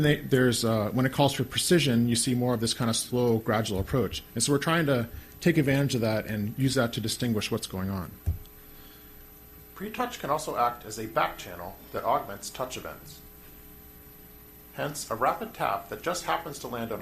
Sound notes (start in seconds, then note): 10.0 voiceover